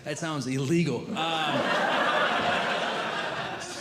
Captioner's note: audience Laughing